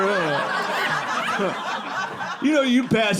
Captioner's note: audience laughing